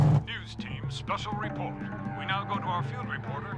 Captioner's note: on TV